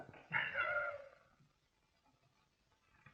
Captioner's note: laughing